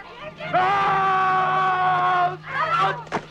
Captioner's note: Nepakin screams